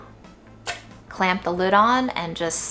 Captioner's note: water splashes